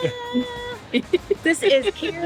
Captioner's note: laughs